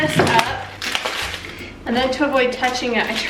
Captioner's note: ripping open package